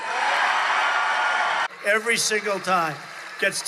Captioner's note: cheering